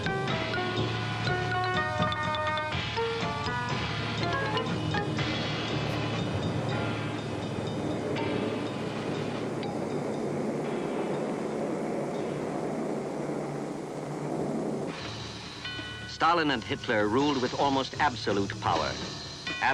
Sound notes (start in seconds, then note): 4.4 airplane engines whirring